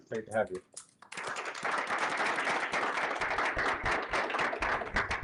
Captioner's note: applause